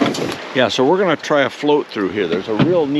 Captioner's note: fish thrashing; water flowing